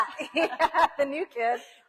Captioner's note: both laugh